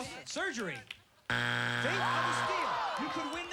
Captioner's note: buzzer